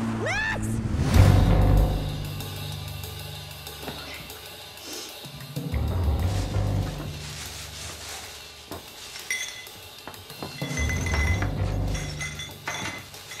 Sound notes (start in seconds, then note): 10.4 glass rattling